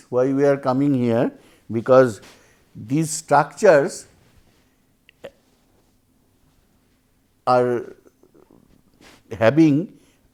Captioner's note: thermal noise